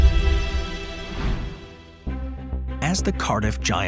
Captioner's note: image whooshes; suspenseful music